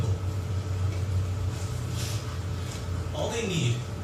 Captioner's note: film reeling